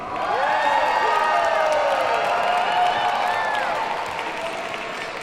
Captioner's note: audience cheers and applauds